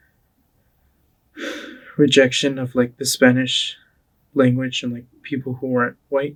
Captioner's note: sighs